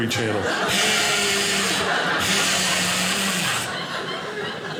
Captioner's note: hiss noise; audience laughing